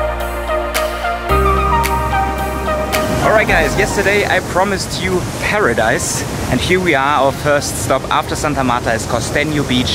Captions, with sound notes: (waves crashing) Alright guys, yesterday I promised you paradise and here we are, our first stop after Santa Marta is Costeno Beach.